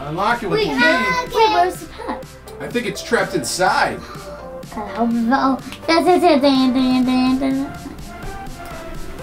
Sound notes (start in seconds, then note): 4.8 mumbling